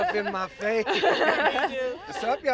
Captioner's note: all laughing